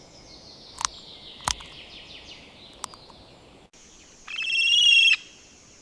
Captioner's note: ambient forest sounds